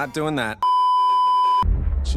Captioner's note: beeeeeeeeeeeep